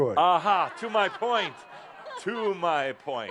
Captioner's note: laughter